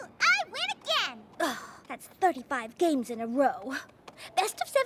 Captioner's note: sighs